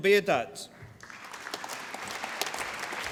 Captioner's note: applause